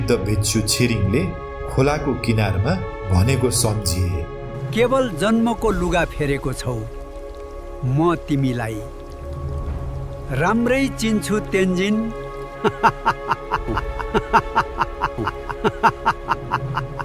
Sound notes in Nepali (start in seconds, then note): 12.6 हास्य